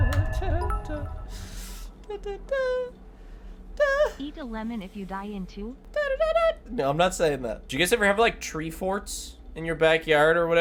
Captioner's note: humming